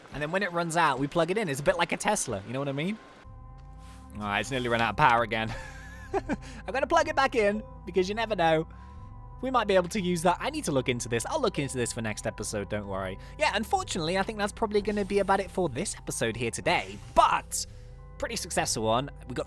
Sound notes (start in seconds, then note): 5.5 laughs